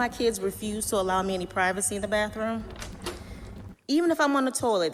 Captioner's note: click, door creeks opens